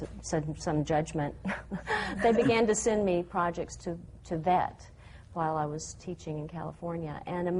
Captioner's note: laughs